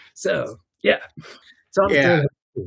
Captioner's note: audio cutting out